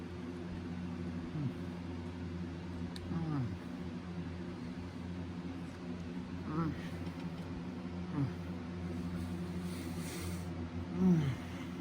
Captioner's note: pleasantly moans and groans